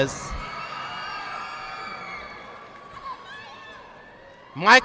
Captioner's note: audience clapping